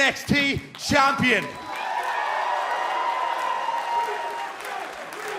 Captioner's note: cheers and applause; fans chanting